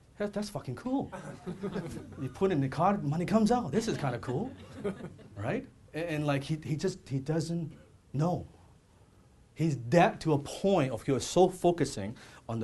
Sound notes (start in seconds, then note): 1.2 audience laughs